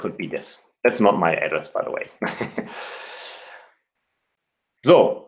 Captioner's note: chuckles